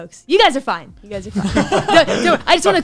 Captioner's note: laughs